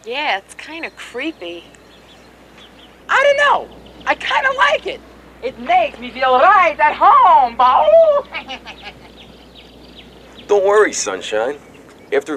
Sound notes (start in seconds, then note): 5.5 bad accent; 8.4 laughs